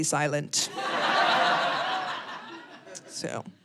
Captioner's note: audience laughing